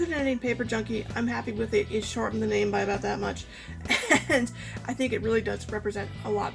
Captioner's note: laughs